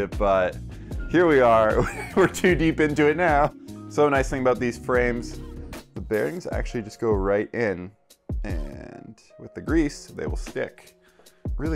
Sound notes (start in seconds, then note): 1.8 laughs